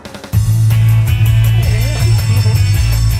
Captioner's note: bell ringing